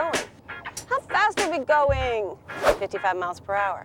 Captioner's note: whining